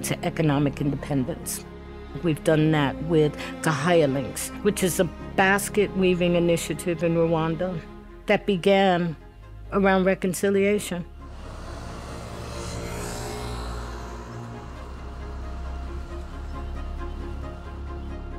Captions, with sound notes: to economic independence. We've done that with Gahaya Links which is a basket weaving initiative in Rwanda that began around reconciliation. (motorbike engine whirs) (inspirational music continues)